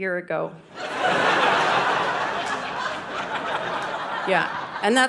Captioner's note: audience laughing